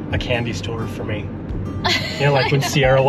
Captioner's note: laughing